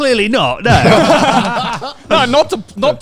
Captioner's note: laughing loudly